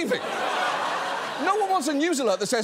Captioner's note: audience laughs